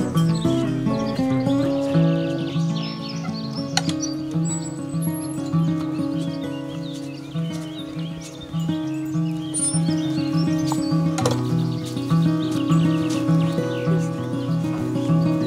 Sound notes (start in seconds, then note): 2.7 gate opening; 9.4 gate closing